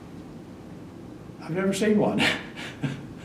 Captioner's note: laughs